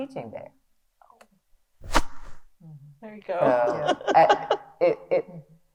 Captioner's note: laughs